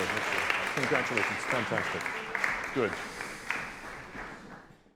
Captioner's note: applause continues